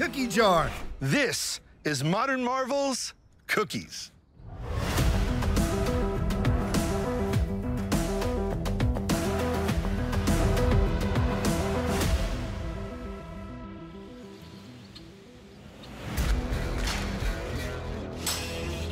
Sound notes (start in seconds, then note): 3.9 theme music; 12.9 birds chirping